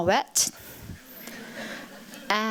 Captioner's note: chuckling